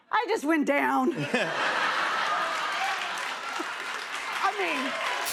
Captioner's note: laughter